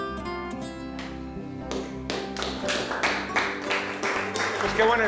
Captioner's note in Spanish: Aplausos